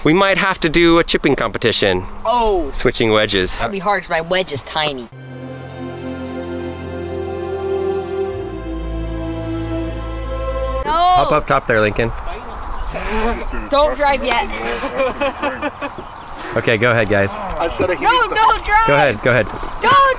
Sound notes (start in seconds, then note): 5.1 majestic music; 15.0 driver laughing